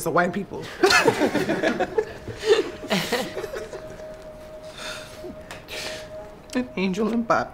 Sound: laughter

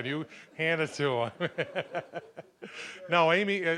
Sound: laughing

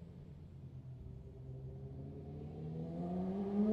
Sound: s1000r flyby incoming

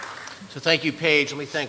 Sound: applause

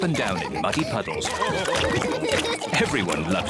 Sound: all laugh

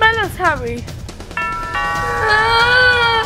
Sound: doorbell rings; whining

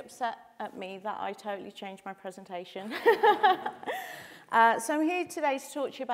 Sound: chuckles

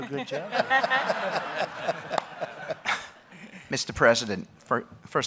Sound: laughter

